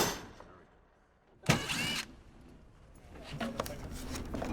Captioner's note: hammering